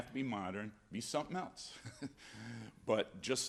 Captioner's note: laughs